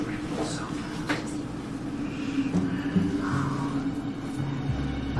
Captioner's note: whispering